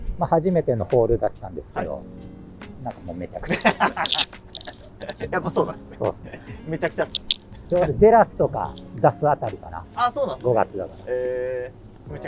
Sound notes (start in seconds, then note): 3.4 laughing